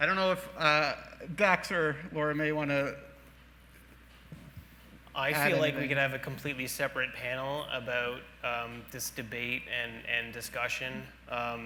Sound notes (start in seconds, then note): none